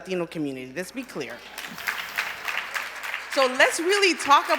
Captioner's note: applause